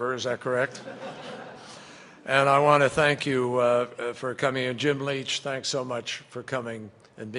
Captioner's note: laughter